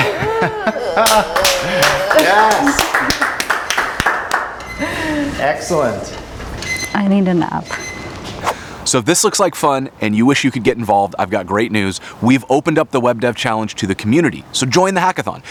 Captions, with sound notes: (laughing) (clapping) Excellent. I need a nap. So if this looks like fun and you wish you could get involved. I've got great news. We've opened up the Web Dev Challenge to the community. So join the hackathon.